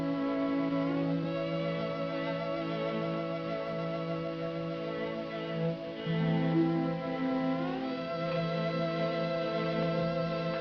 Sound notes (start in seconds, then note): none